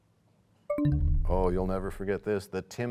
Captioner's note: bell chimes, time expires